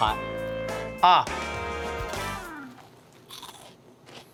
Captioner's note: crunches